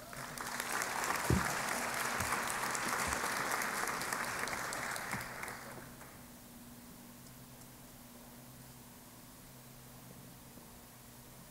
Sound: applause

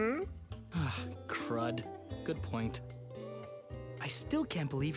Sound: sighs

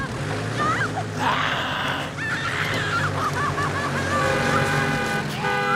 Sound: engine revving; Eddy growling; horn honking

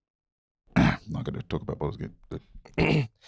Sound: clears throat

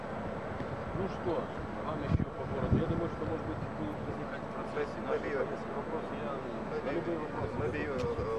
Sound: non-english speech

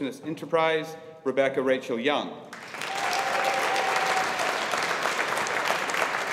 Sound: audience applauding

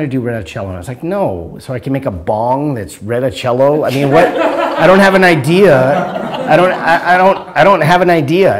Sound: laughter

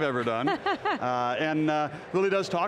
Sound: laughing

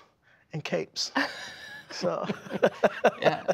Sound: laughter

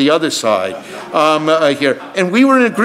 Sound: audience laughs

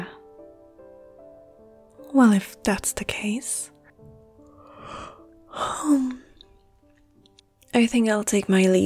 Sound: yawn

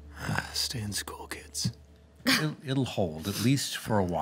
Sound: chuckling

